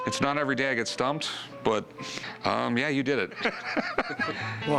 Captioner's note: laughter